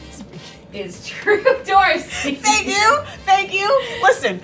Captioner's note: laughing